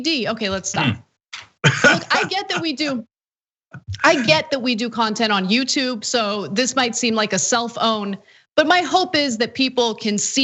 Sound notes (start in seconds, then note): 1.6 laugh